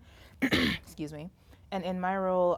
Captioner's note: coughs